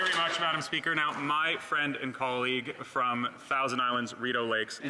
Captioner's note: applause